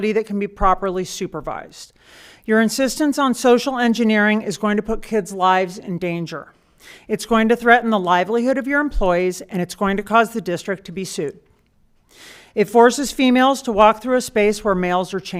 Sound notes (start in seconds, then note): none